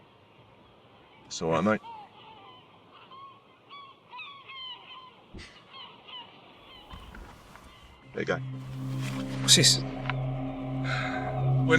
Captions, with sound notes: - It's all right mate. (seagulls cawing) There you go. - What's this?